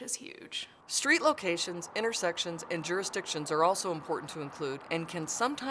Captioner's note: sounds of vehicles driving on road